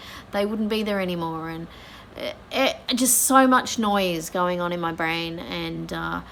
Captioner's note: fumbles for words